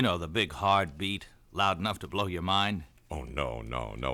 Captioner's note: none